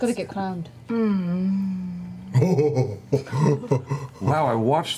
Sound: laughs

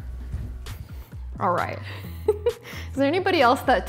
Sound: laughs

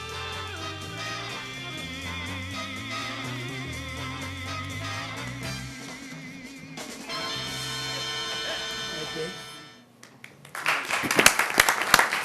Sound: applause

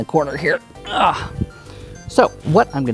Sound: grunts

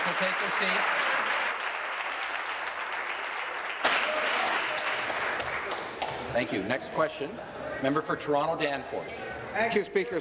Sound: applause

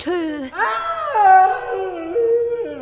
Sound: strange groans and screams are heard

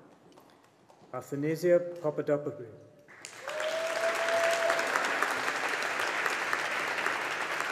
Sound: audience applauding

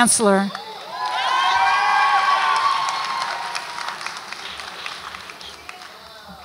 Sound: audience applauds and cheers

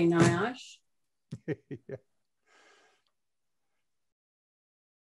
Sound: chuckling

